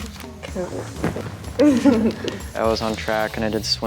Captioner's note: chuckle